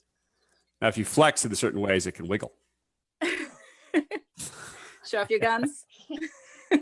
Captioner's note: laughs